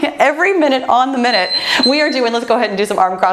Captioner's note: timer beeps